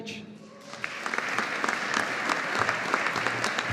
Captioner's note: audience applauding